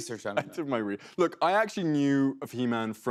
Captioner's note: normal voice